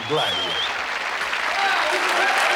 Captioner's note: applause and cheering